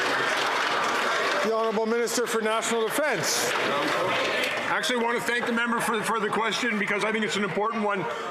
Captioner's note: some Applause